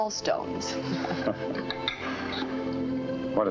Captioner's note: laughs